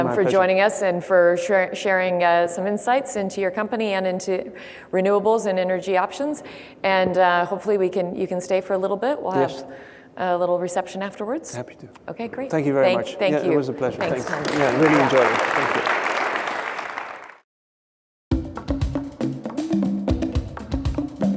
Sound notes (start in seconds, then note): 16.1 audience applause; 18.4 upbeat music